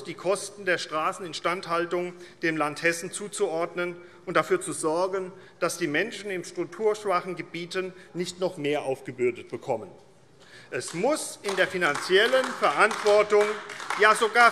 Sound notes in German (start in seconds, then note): 9.8 Beifall AfD